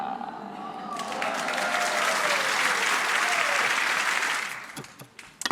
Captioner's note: audience laughs; audience applauds